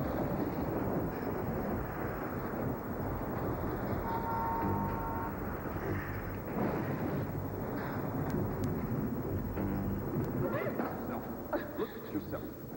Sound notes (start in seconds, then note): 0.0 thunder rumbles